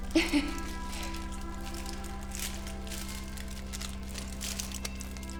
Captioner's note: tin foil rustling; Anna chuckles